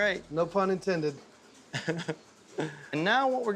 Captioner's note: chuckling